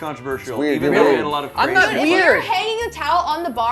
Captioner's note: overlapping chatter